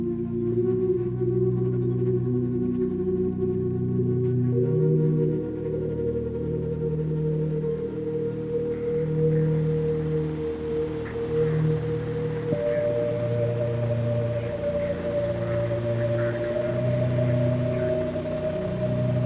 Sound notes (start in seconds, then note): 8.0 radio static hissing; 8.0 voice on radio muffling; 18.3 gentle distorted music continuing